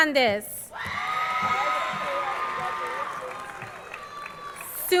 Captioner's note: crowd cheering